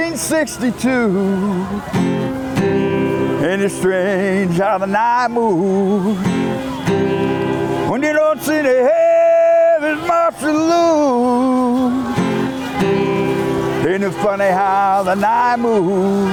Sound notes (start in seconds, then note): 11.8 cheers